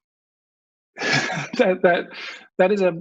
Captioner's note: laughs